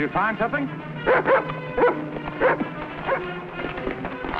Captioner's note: barking